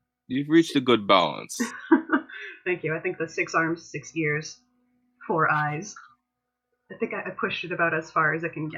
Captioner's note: laughter